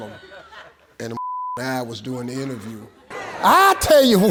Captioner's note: beep